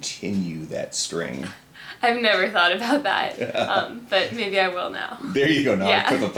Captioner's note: laughs; laughs